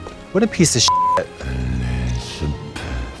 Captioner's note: beep